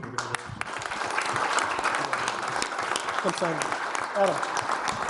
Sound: audience applauding

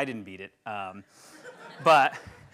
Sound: laughing

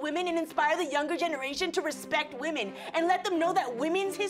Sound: none

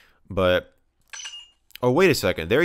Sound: metallic clinking sound effect

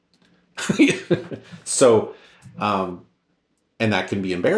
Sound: laughs

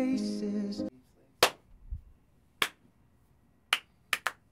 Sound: claps twice; claps rhythmically

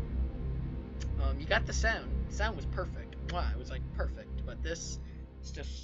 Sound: kiss sound

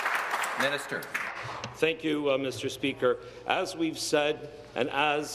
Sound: applause

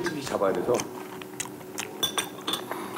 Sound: chew-chew-chew

